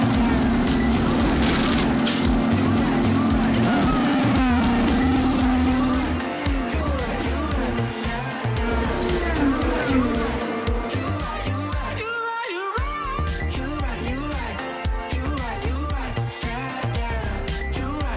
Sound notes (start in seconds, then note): 6.7 engines roaring; 6.7 upbeat music